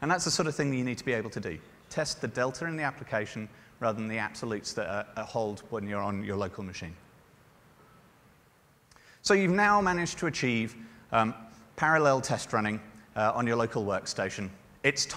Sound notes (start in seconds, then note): none